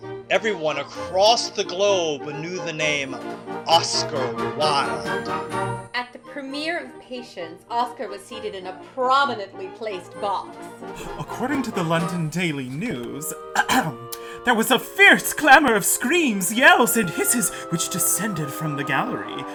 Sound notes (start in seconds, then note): 11.5 excited; 13.5 clears throat